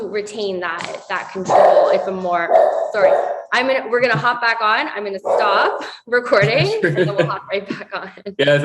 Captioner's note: dog Barking